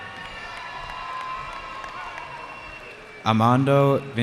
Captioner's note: cheering